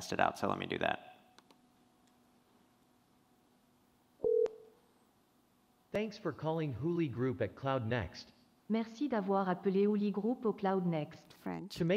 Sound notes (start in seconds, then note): 4.2 phone rings; 8.9 speaking french